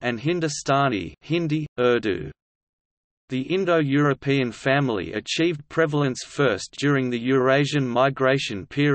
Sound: hindi/Urdu

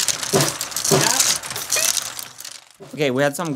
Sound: poing

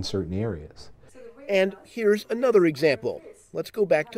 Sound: voiceover

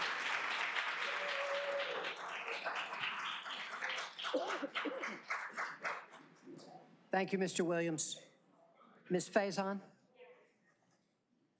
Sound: applause

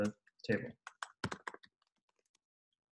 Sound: typing

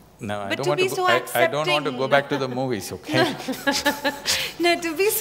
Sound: Juhi Laughs

